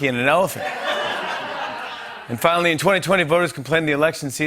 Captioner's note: laughter